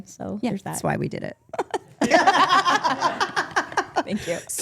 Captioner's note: group laughing